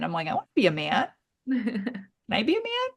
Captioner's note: laughs